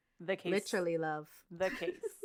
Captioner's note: laughs